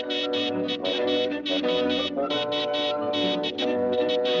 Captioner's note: buzzing